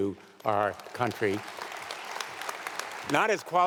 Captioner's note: audience applauding